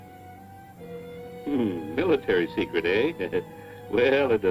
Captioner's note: chuckles